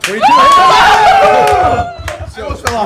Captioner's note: cheering